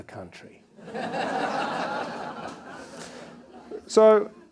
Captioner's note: attendees laughing